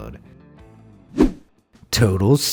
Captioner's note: air whooshing